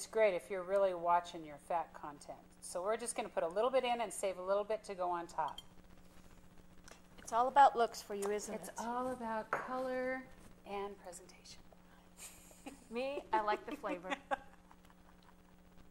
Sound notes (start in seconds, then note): 13.3 laughs